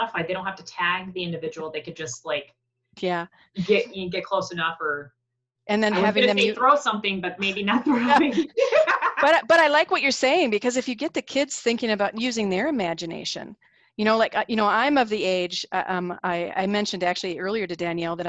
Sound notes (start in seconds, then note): 7.4 laughing